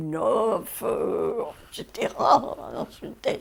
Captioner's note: French spoken audio